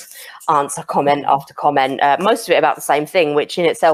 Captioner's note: none